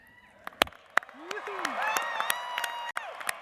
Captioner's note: applause